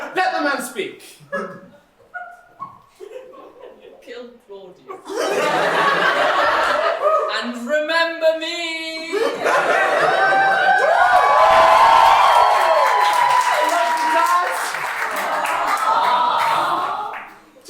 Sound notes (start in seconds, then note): 13.6 audience cheering; 16.0 audience aww